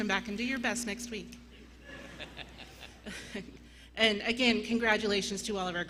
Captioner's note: laughter